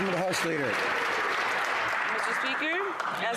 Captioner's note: some Applause